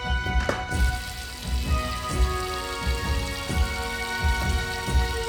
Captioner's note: water rushing